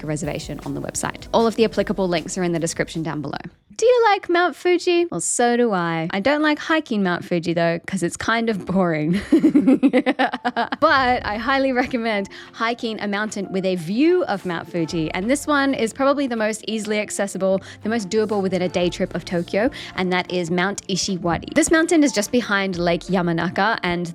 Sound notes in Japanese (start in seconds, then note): 9.1 悪役の笑い